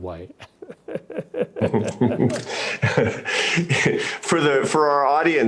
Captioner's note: laughs loudly